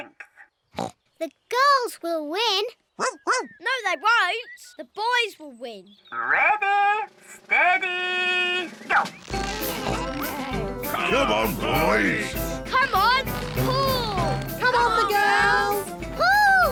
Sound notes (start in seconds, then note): 0.7 snorts; 3.0 barks